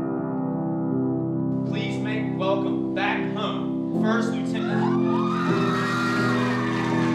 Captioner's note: cheers and applause